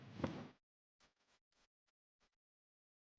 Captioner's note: laundry whipping